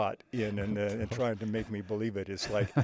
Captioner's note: laughing